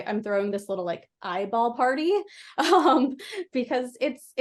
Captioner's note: laughs